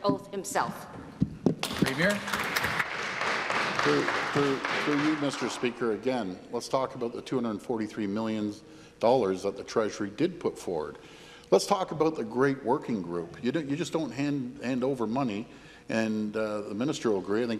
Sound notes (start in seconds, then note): 6.3 applause